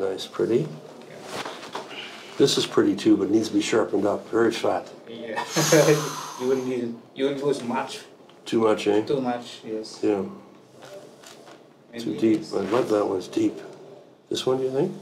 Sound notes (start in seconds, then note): 5.4 all giggle